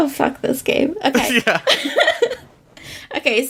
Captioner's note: laughs